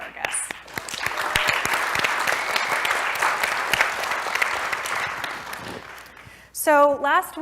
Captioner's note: applause